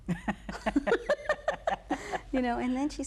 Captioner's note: both laughing